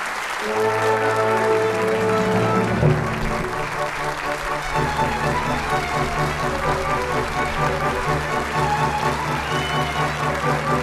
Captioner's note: applause; curtain call music plays